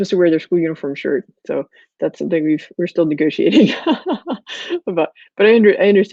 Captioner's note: laughs